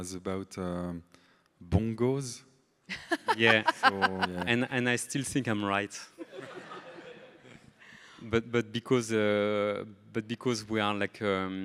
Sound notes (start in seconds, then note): 2.9 laughs; 6.2 everybody laughing